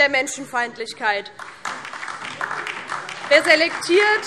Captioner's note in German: Beifall DIE LINKE